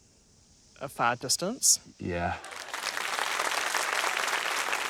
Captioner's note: applause